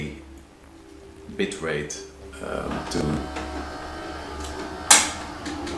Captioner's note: loud mechanical noises